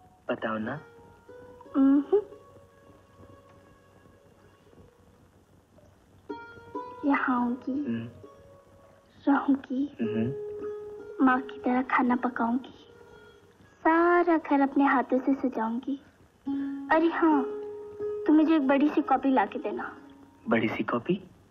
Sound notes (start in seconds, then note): none